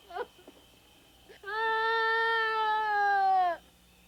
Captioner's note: Claudie wailing